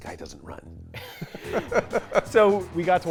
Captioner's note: both laugh